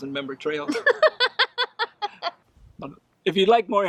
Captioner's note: laughs